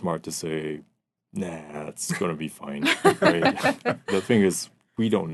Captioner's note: laughing